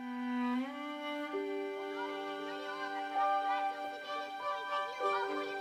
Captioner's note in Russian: детский крик разносчика газет